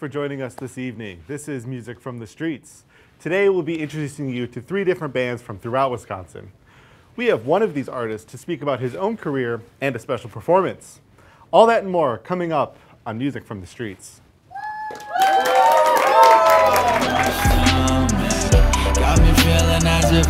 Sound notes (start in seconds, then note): 14.6 crowd cheering loudly; 16.6 upbeat bass music